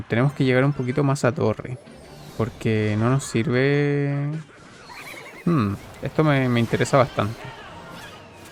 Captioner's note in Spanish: risas